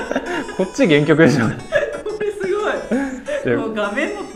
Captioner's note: laughs